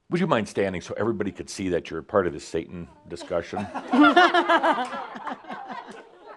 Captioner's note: laughter